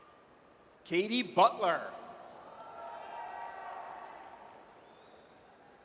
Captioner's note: audience cheers